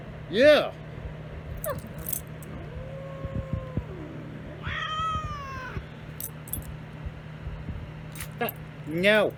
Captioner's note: Ella barks, then yelps; Caprice growls and howls, then meows